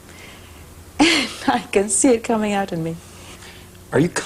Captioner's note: laughing